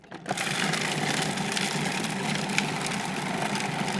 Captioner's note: blender whirring